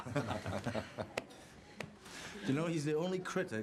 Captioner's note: Rob laughs